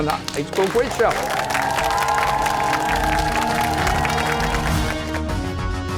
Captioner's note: cheers and applause